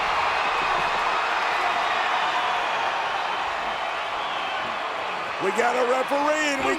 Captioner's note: applause